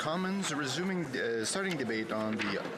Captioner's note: speaking French